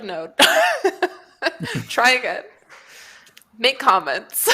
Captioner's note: laughs